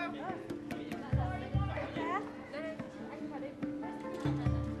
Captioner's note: background talking